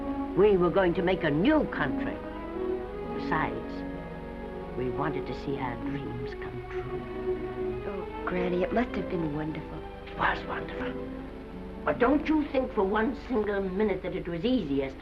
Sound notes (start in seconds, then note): none